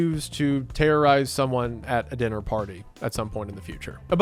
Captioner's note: none